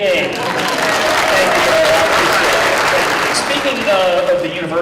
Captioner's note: applause